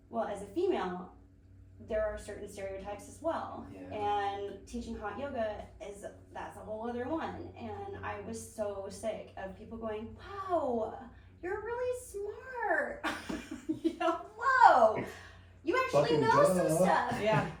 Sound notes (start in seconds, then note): 13.0 laughs